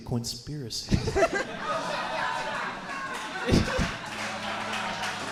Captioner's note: audience applauding